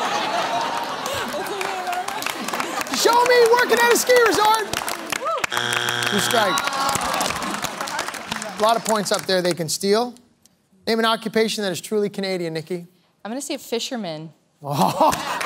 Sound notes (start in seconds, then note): 0.0 laughter; 5.4 buzzer sounds